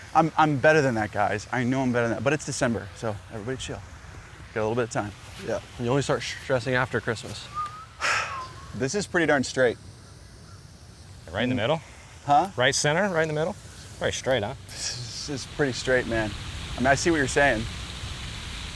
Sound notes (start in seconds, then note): 7.5 sighs